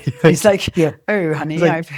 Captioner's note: laughs